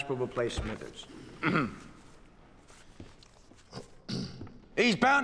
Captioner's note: clearing throat